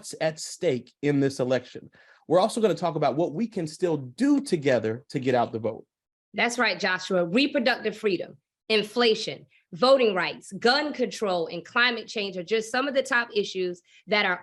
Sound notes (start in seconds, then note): none